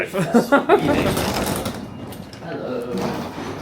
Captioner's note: laughs